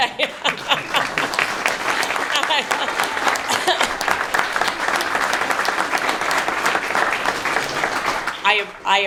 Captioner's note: applause